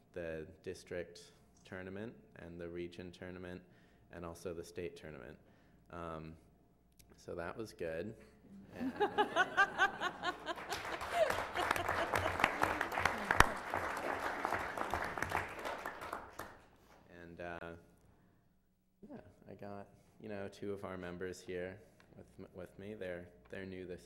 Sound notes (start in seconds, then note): 8.7 laughter; 9.9 applause